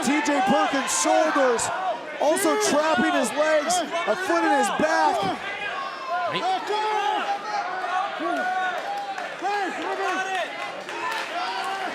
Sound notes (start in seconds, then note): 5.4 crowd shouting